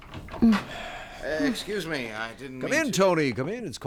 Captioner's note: door opens